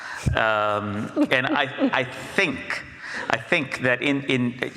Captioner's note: Jennifer laughs